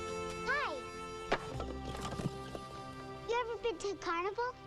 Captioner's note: gentle music; ax clunks